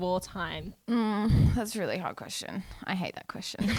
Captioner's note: moans